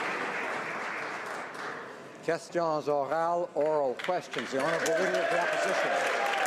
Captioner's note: some Applause